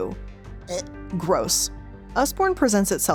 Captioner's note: gags